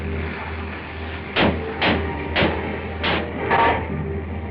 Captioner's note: banging